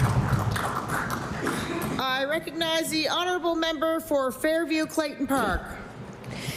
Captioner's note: applause